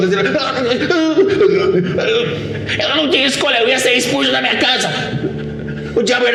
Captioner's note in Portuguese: gaguejando